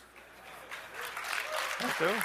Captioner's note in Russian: аплодисменты